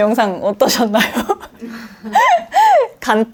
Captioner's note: laughs